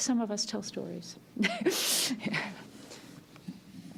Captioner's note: chuckles